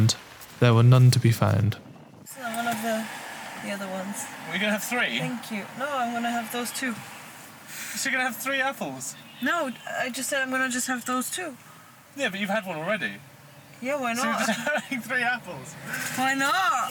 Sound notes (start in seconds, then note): 14.1 laughing